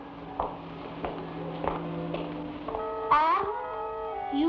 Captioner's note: heels clack